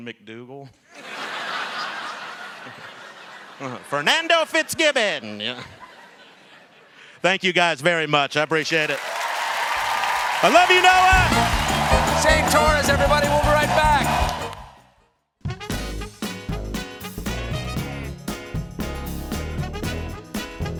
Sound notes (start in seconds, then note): 5.2 laughter